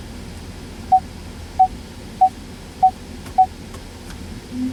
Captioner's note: rear Parking Sensor Beep